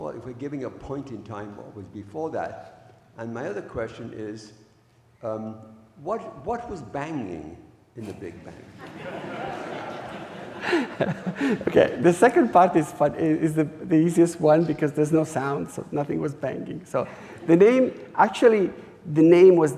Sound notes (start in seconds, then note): 8.8 audience laughing